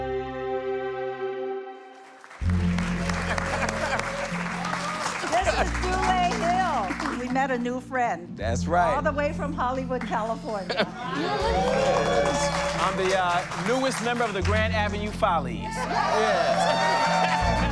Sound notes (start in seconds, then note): 1.9 applause; 11.0 cheering; 15.6 crowd cheers